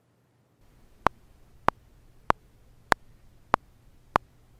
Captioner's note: metronome ticking